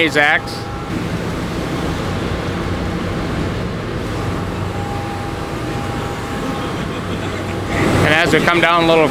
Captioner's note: buzzing sound